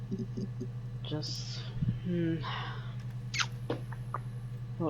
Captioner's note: thinking noises